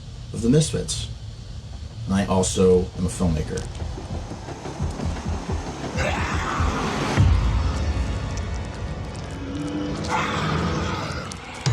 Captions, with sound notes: of The Misfits. And I also am a filmmaker. [Suspenseful music] [Monstrous grumbling] [Monstrous grumbling] [Slimy steps]